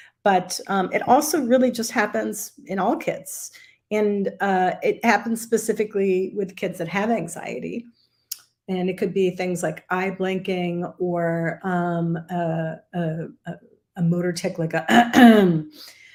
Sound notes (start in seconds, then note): 14.9 clears throat